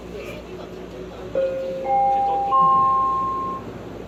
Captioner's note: Skytrain Door Chime